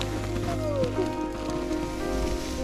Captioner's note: yawn